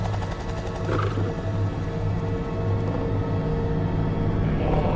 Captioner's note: Growling